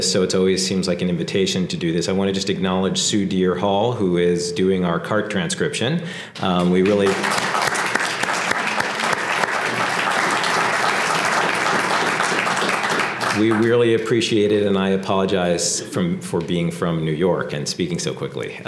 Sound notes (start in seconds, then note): 10.5 applause